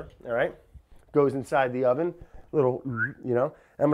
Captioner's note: whistles